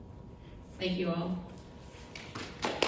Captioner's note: applause